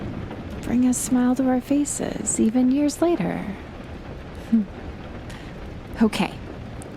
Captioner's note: she lets out soft chuckle